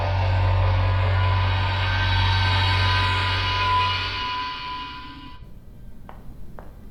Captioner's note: Federation transporter buzz